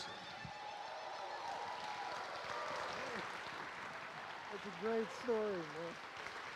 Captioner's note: crowd cheering and applauding